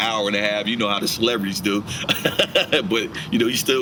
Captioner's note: laughing